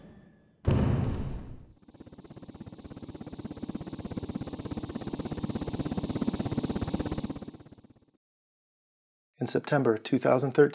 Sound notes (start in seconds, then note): 0.7 crash, sound of helicopter rotor